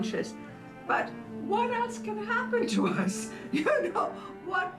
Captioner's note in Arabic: يضحك